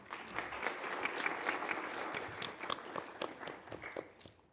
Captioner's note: applause